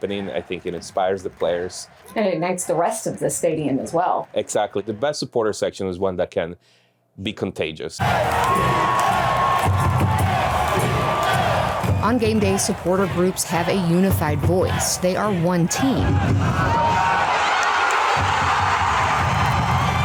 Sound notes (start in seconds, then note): 8.3 crowd; 16.5 crowd cheering